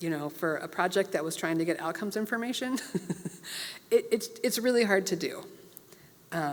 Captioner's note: laugh